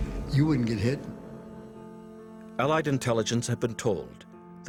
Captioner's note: voiceover